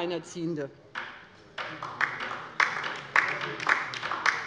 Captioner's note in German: Beifall bei der LINKEN